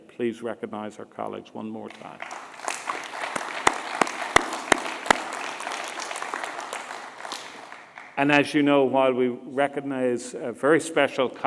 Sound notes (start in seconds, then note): 1.9 applause